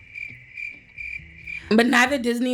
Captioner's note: crickets chirping